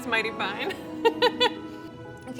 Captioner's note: laughs